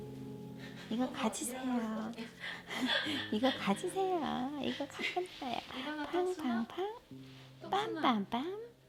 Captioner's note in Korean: 웃음